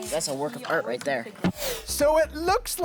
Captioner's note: video popping; video whooshing